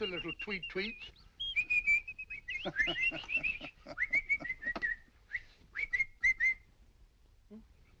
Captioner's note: making tweet sounds